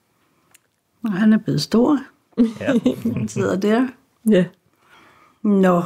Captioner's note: chuckles